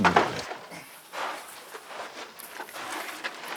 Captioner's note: rummaging and creaking